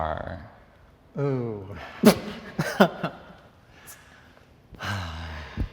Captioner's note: contestant laughs